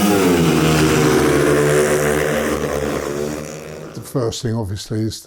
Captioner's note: bikes accelerating